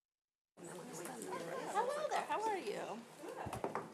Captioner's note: people chattering